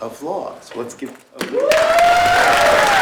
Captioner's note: applause